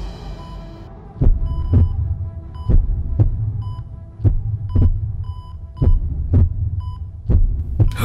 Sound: beeping

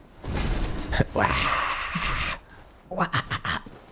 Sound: breathy

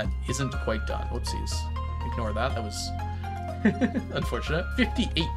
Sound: laughs

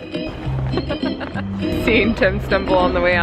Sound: laugh

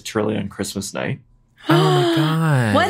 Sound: vanessa gasps

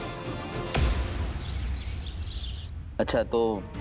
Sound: birds chirping

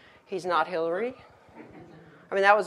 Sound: audience laughs

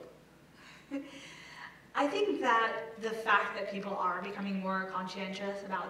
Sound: laugh

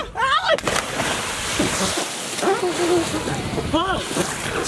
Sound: water splash

